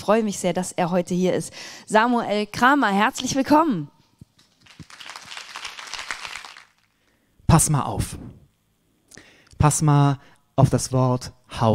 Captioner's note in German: applaus